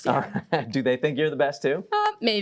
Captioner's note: chuckling